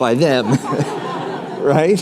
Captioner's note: laughter